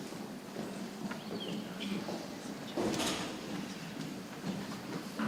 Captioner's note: people chattering softly